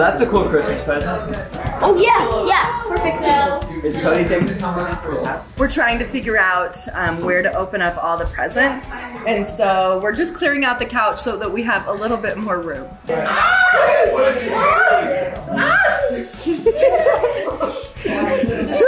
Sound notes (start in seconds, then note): 16.0 laughs; 16.3 group laughs